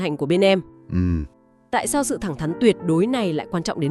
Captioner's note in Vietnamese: hắng giọng